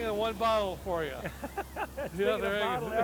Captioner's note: laughs